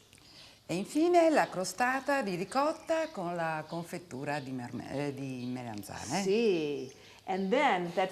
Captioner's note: speaking Italian